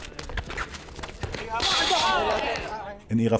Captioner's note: shouting